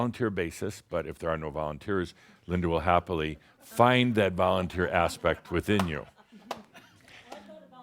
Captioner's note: a few chuckles